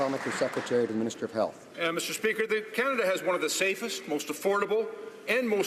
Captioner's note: some Applause